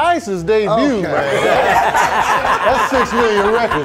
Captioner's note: laughing